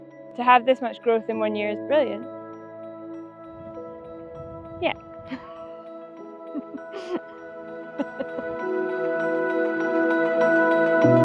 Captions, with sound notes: to have this much growth in one year is brilliant. Yeah. (LAUGHS)